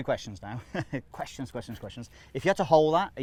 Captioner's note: laughs